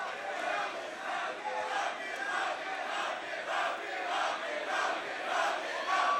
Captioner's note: crowd chants "Hug it out"